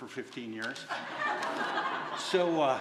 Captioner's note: laughter